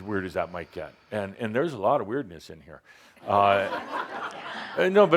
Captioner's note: laughter